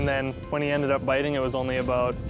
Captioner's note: pat